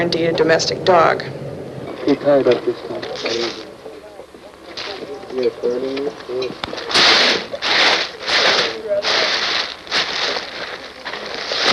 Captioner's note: talking and bag crunching